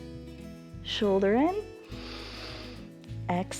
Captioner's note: exhales; inhales